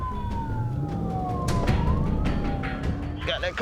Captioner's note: intense music playing; engine gunning